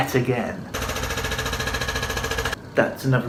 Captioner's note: drilling